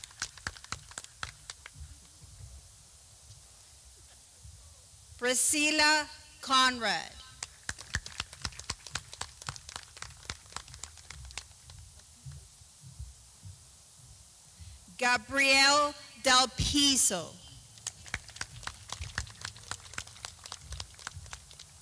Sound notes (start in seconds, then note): 0.0 clapping